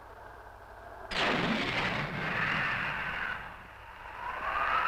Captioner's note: loud boom